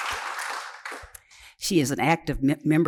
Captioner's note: cheering and applause